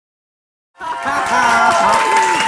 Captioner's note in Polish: śmiech prowadzącego, oklaski